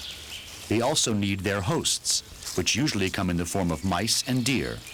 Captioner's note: birds chirping